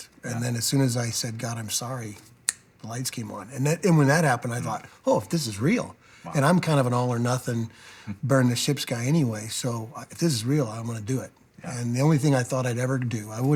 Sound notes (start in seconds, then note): 2.4 snaps